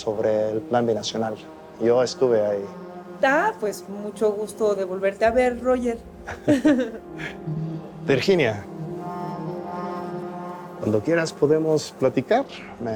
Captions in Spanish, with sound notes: SOBRE EL PLAN BINACIONAL. YO ESTUVE AHÍ. - ¡AH! PUES, MUCHO GUSTO DE VOLVERTE A VER, ROGER. [Risas] - VIRGINIA... CUANDO QUIERAS PODEMOS PLATICAR,